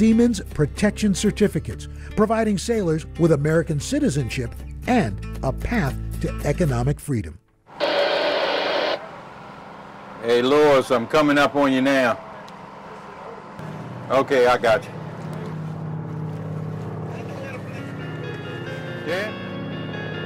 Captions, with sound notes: Siemens protection certificates, providing sailors with American citizenship and a path to economic freedom. (radio static) - Hey, Lawrence, I'm coming up on you now. Okay. I got you.